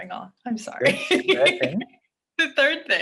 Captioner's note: chuckles